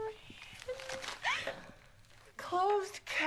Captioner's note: crying